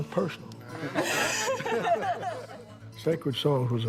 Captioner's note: laughing